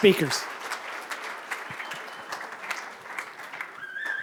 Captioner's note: applause